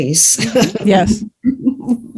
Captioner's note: guffaw